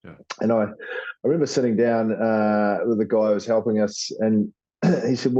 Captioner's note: cough